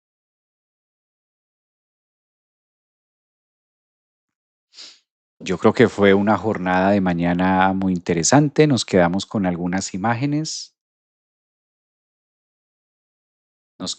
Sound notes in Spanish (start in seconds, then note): 4.8 resoplido